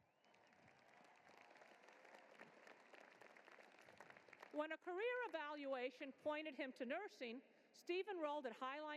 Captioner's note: applause